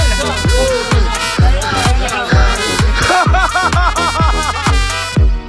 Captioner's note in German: Gelächter